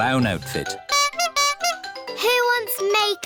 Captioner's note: toots horn